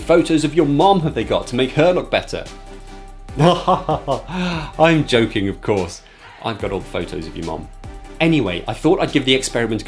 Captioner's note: fake laughs